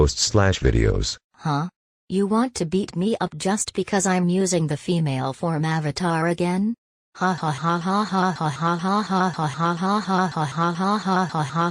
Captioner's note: laughs